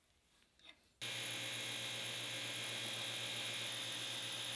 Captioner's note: lathe whirring